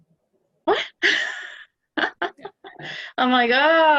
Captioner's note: laughing